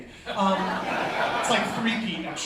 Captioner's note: laughter